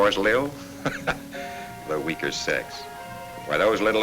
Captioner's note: chuckles